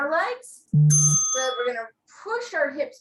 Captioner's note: bell rings